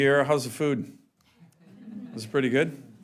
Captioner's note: laughter